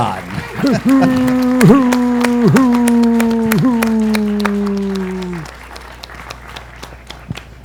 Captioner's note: applause and cheers